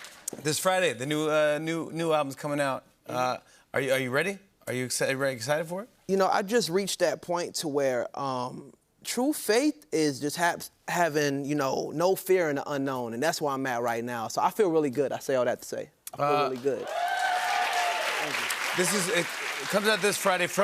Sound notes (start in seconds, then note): 16.4 cheers and applause